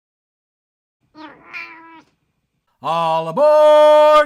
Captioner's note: meow!